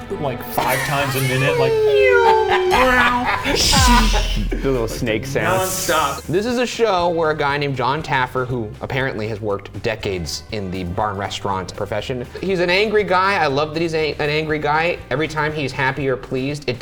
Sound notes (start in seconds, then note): 2.1 imitating sound effects